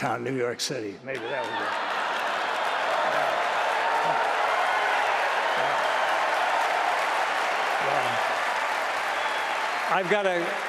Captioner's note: applause